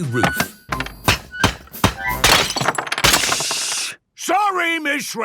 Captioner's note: banging, crashing